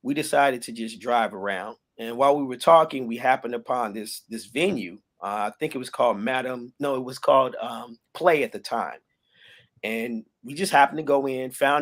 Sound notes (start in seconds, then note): none